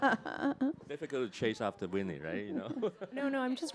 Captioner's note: chuckles; chuckles